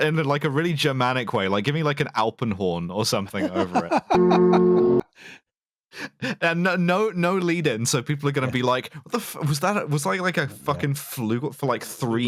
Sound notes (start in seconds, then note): 3.3 laughs; 4.1 ♩ flügelhorn ♩